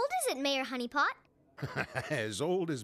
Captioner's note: chuckles